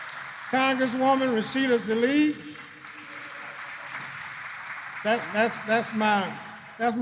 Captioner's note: applause